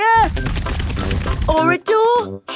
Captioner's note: drilling